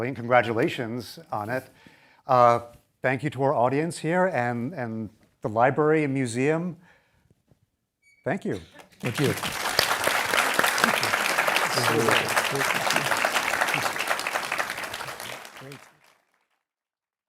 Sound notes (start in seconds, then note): 8.7 applause